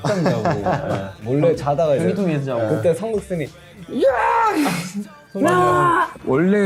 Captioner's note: chuckles